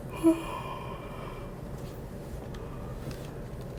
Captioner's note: Allison yawns